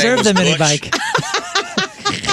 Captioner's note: laughing